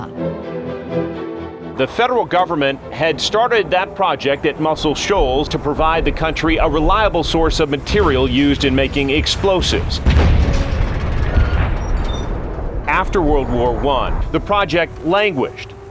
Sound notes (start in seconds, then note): 0.0 fast-paced music; 10.0 explosions